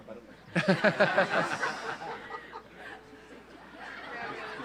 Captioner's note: audience laughs